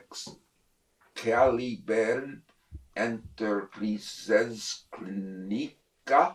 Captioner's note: mispronouncing